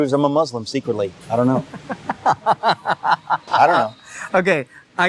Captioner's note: laughs